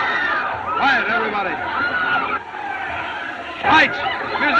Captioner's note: crowd Screams